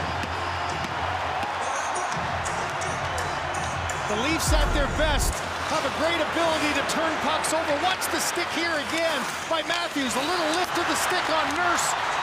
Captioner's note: cheering